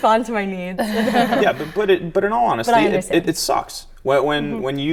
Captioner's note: laughter